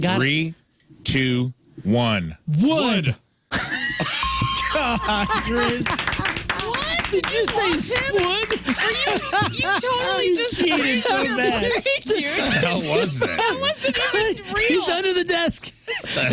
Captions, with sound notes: Three, two, one. Wood. (Laughing) God, Chris. (Clapping) What? Did you say squid? You totally just-- He cheated so bad. Did he cheat, Jared? What the hell was that? It wasn't real. He's under the desk. What